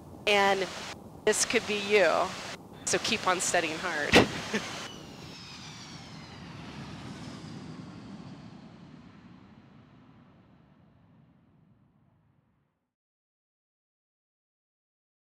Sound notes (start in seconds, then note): 5.3 airplane lands